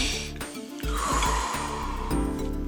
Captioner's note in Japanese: 呼吸音